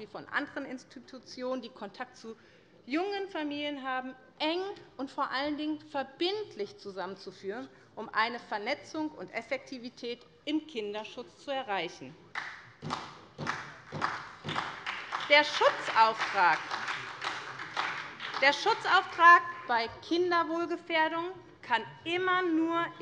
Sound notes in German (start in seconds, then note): 12.3 Beifall bei der SPD